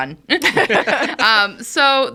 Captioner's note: all laughing